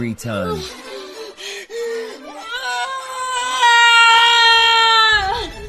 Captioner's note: screams